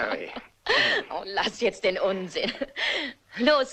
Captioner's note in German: lacht